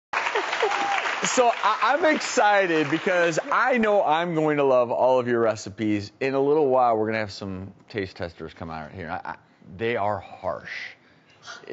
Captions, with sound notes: (crowd applauds) So I'm excited because, I know I'm going to love all of your recipes. In a little while, we're gonna have some taste testers come out here. They are harsh.